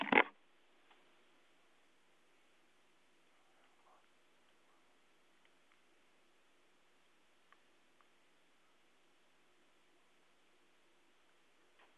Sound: long pause

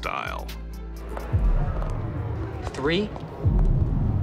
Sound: crowd murmuring

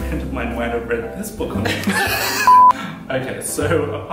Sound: laughter

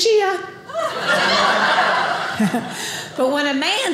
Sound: audience laughing

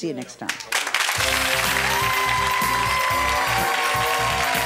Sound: cheering and applause

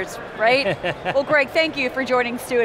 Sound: laughs

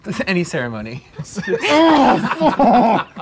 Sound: laughing

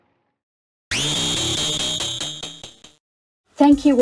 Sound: Driller Killer screech

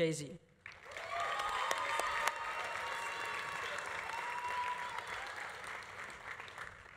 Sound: audience applauding; audience cheering

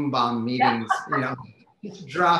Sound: laughs

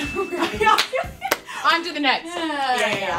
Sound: laughter

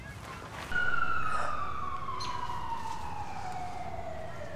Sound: distant sirens

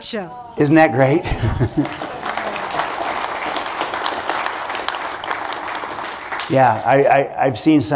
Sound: applause

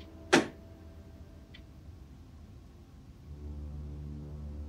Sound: something small banging

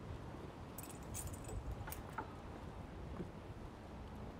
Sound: keys rattling

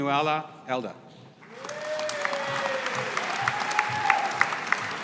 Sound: audience applauding

